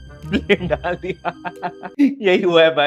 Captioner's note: laughing